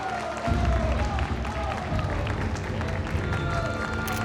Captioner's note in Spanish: aplausos